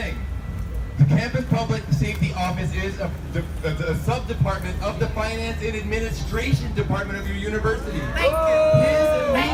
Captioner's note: oooohhhhhh